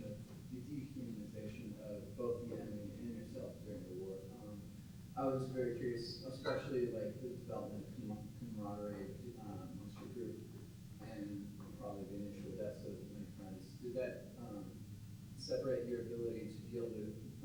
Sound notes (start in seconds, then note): 8.5 murmurs